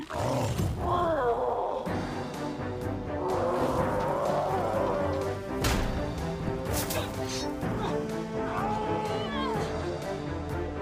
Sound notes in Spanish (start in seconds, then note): 0.0 gruñe fuerte; 8.8 se quejan